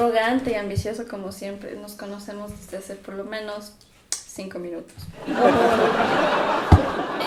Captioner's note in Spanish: risas